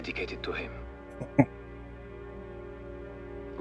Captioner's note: chuckling